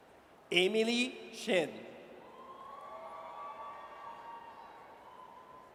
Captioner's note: audience cheers